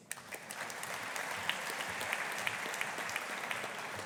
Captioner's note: audience applauding